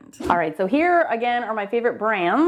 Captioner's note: brushes whooshing